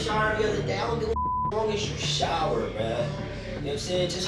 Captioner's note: beep